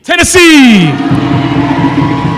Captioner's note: cheering